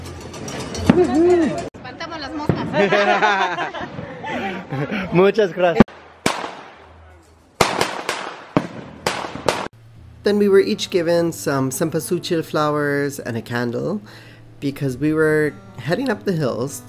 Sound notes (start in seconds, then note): 7.2 fireworks banging